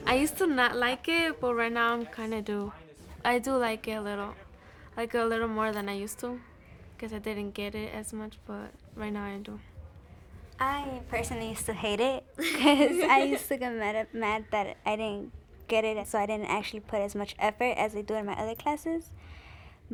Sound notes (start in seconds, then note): 12.4 laughing